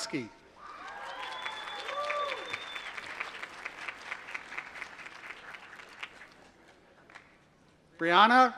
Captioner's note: applause